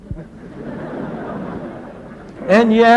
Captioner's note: laughter